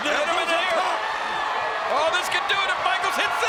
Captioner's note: audience cheering